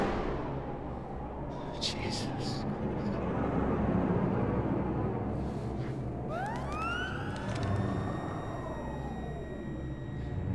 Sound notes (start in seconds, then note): 6.4 machine beeps